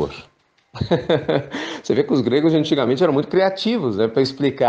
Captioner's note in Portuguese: risos